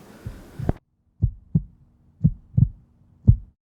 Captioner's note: heartbeat sound in background